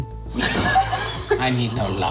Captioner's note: group laughing